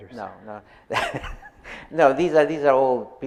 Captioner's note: chuckles